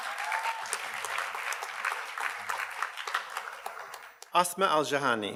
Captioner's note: audience cheers and applauds